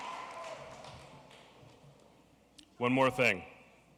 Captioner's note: applause